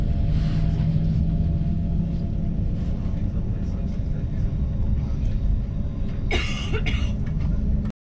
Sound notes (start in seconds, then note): 2.6 coughing; 2.6 train engine